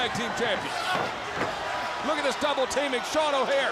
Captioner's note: crowd chatter